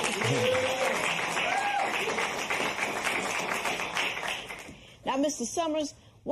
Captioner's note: cheers and applause